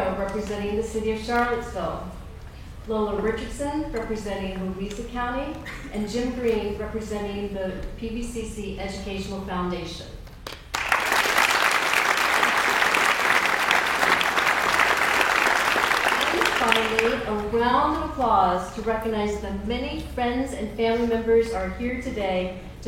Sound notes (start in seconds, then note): 10.5 audience applauds; 10.5 claps